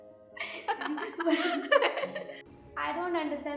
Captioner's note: laughing